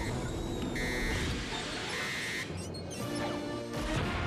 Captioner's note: buzzer